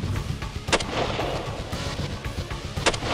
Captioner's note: gunshots; exciting music